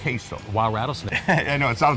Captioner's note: laughs